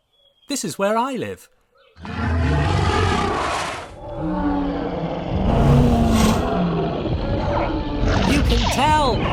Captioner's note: dinosaurs roar, growl, and squeak